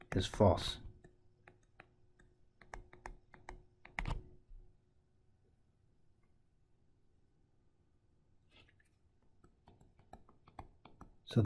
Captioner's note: tapping Sounds